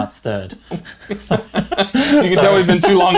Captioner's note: both laugh